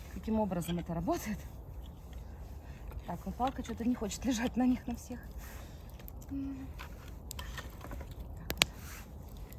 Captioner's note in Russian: звуки костра